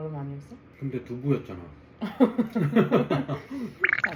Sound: laughter

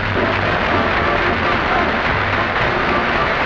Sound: applause

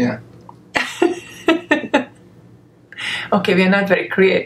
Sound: laughs

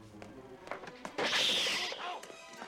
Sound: screeches

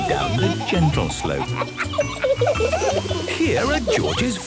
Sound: kids laughing

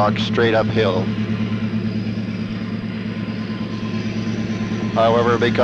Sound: sound of the train moving

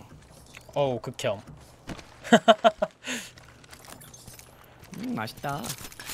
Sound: laugh

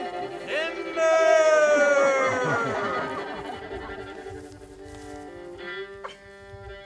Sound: more crowd laughter

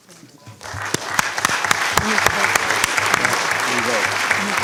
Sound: clapping

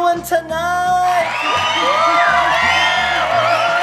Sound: crowd cheers

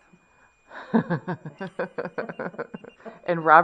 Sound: laughter

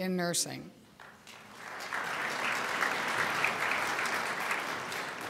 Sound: crowd applauds

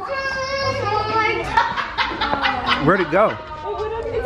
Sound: laughing

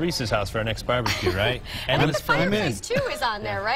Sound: laughter

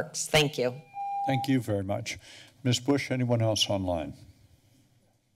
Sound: none

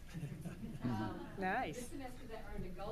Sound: audience laughs

